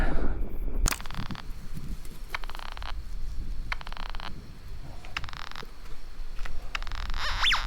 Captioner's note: metal detector crackling; leaves rustling